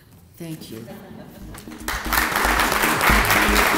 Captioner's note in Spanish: el público se ríe